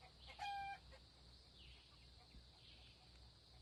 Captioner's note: chickens clucking